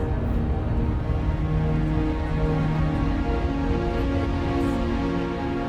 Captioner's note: interior bus ambience